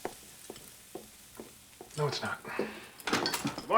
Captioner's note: sighing